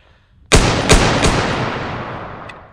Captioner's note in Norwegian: skudd 3x